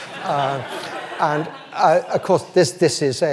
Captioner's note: audience laughs